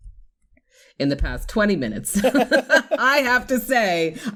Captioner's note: laughter